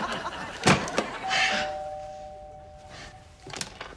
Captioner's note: laughs; door bell